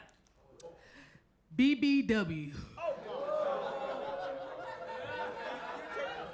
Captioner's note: audience laughs